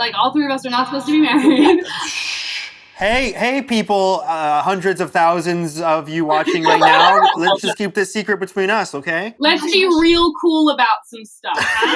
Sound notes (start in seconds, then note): 1.8 hushing; 11.5 laughter